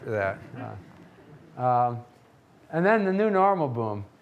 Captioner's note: audience laughing